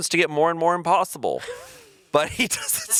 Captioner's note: chuckling